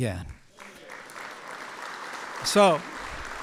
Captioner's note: applause